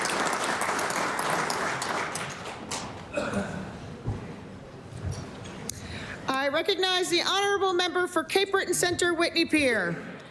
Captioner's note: applause